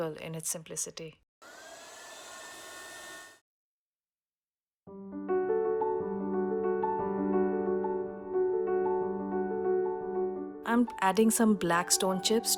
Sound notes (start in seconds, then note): 1.5 sound of heat gun